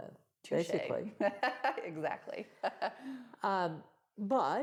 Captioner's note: laughs